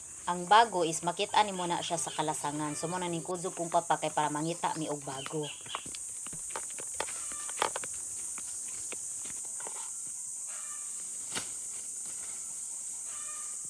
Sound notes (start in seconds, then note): 5.3 footstep sounds